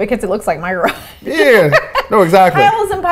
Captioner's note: laughs